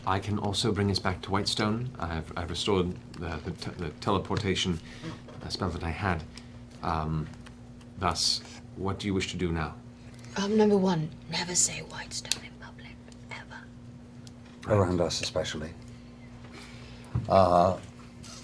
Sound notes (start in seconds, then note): 11.5 whispers